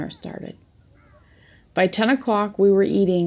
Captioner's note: ambient noise fades